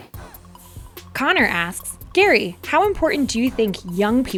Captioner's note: voiceover